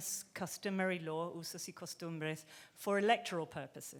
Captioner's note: speaking in foreign language